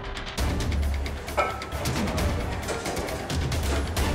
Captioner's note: metal clinking